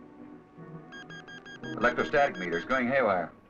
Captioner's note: beeping